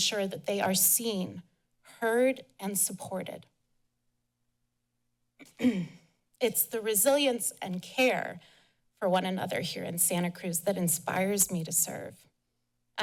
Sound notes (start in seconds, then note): 3.7 pause; 5.4 clears throat